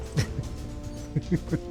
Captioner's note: laughs